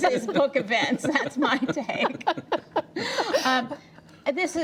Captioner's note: laughter